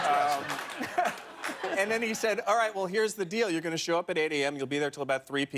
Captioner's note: laughter